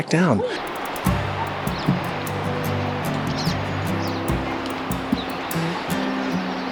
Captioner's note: birds chirping; gentle music